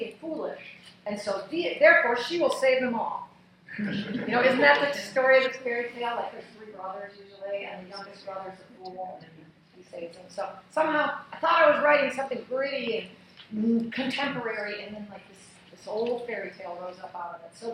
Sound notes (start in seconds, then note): 3.7 laughing